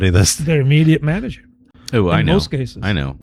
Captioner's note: uh